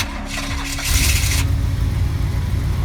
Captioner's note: vehicle starts